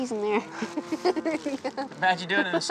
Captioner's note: laughing